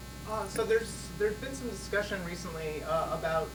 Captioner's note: male Voice